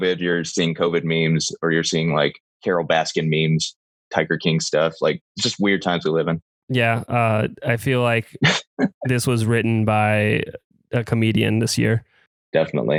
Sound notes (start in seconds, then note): 8.5 laughs